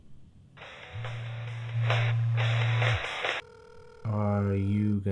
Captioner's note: cell phone ringing